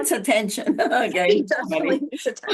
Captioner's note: laughter